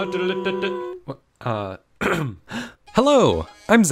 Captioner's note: throat clear